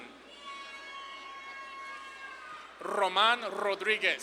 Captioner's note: audience claps and cheers